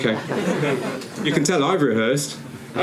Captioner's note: audience laughing